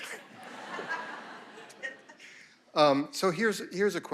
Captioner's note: audience laughing